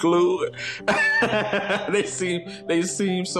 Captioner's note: laughs